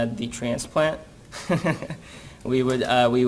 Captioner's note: chuckles